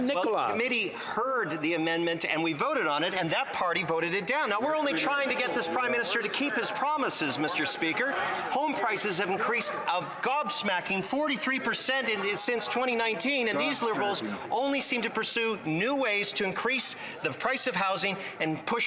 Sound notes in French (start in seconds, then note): 4.3 voix de l'interprète